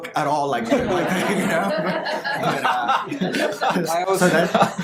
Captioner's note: audience laughter